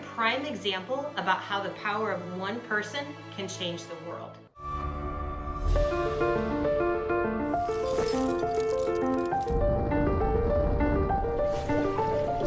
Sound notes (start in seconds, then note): 4.5 inspiring instrumental music; 7.6 metal clanking; 9.5 rocket roaring